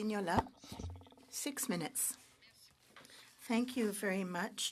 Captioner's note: speaking French